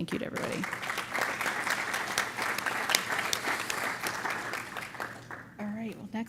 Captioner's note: applause